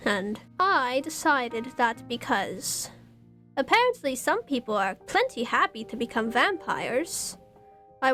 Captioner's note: none